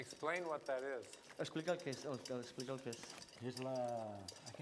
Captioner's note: non-english speech